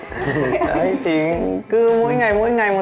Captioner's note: laughing